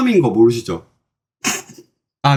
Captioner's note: hahaha